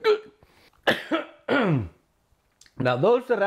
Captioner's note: coughs